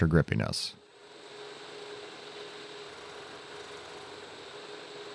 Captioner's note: machine humming